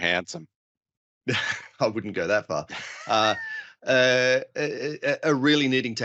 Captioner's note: laughs